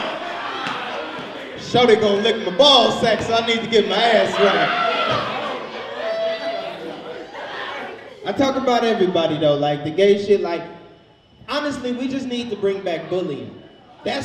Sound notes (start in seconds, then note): 0.0 audience laughs; 4.5 overlapping chattering; 5.3 audience laughs